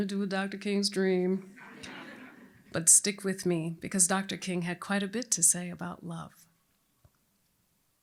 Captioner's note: laughter